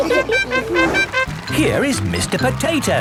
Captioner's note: all laughing; horn tooting